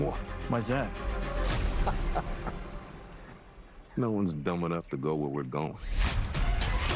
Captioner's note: laughs